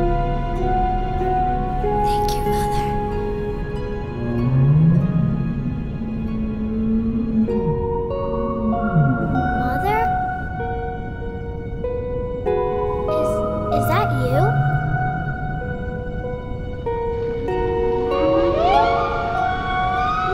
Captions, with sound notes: [Whispering] Thank you Mother. [Whale sound in the distance] Mother? Is...is that you? [Excited whale sound]